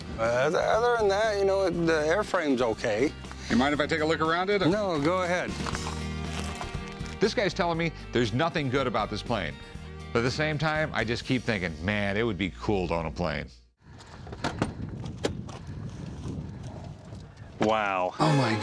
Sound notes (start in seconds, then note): 13.9 thudding